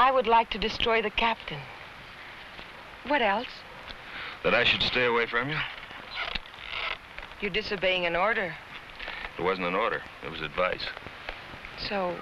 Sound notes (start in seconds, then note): none